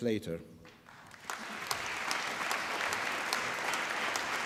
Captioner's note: applause